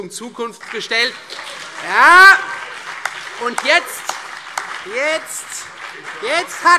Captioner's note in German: Demonstrativer Beifall CDU und BÜNDNIS 90/DIE GRÜNEN